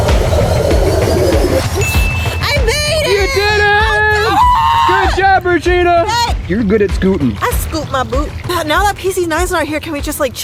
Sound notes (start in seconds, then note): 2.1 beeping